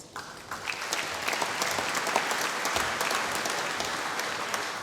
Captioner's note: applause